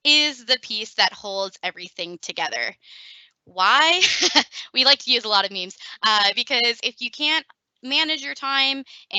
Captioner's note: laughing